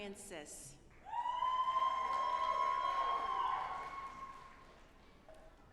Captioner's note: audience applauding